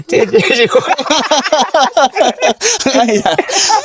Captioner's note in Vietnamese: tiếng cười